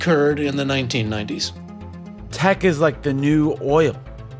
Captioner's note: soundbite of archived recording